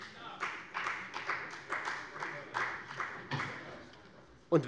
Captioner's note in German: Beifall bei der FDP